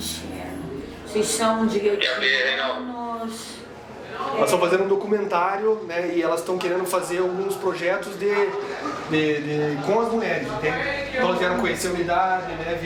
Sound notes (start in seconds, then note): 2.0 radio noise